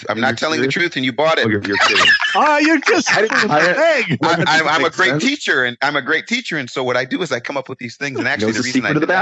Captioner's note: laughing